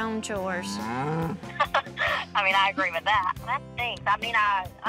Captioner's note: laughs